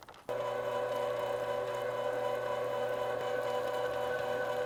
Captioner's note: grinder churring